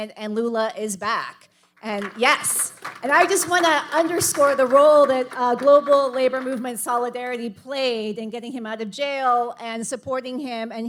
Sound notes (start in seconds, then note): 1.8 audience applauding